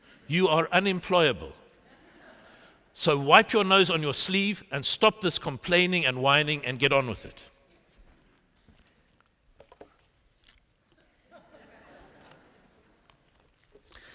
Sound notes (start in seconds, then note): 1.8 laughter; 11.0 laughter